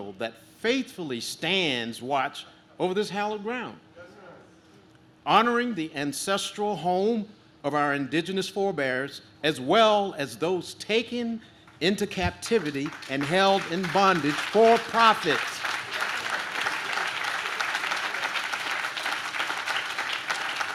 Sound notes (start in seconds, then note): 15.7 audience claps